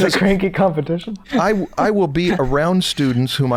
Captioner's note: chuckles